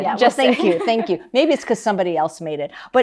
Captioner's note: laughs